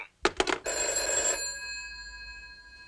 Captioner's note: phone ringing